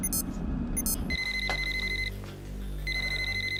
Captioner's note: cellphone rings